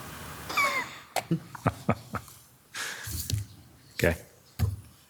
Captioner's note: chuckling